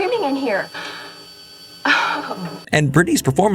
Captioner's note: gasp